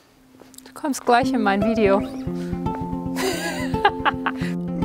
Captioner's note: laughing